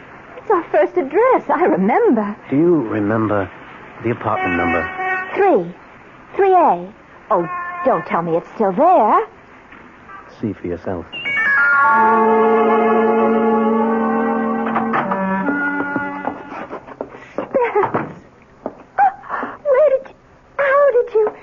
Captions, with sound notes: It's our first address. I remember. Do you remember the apartment number? Three. Three A. Oh, don't tell me it's still there. See for yourself. [bell rings] Spence. Where did you-- How did you--